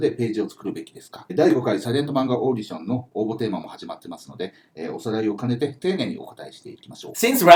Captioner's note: speaking Japanese